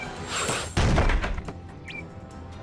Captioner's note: laser blasts